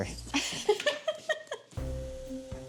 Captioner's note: laughs; playful orchestra music